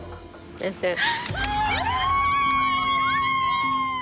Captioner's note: girls gasping and cheering